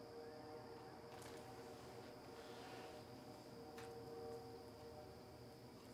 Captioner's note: distant train horn blowing